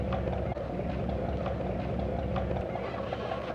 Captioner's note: sound: boat motor